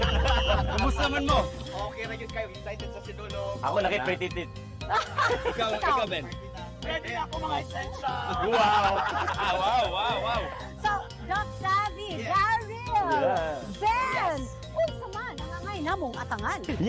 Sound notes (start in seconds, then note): 0.0 laughs playfully; 8.2 laughs